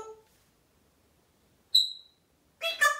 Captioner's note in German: tweet